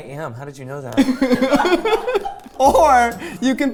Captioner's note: laughing